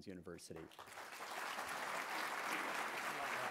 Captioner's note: applause